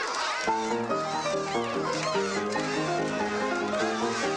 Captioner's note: crowd cheering